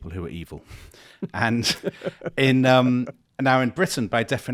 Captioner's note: chuckling